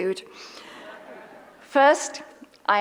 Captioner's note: audience laughs